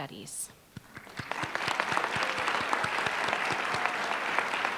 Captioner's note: applause